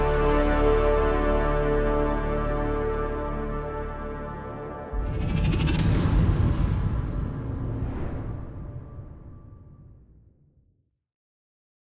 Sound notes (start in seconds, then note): 0.0 dramatic music continues; 4.9 air whooshes; 5.1 air whirring